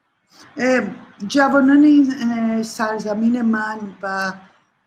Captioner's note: speaks in Persian